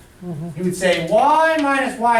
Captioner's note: voiceover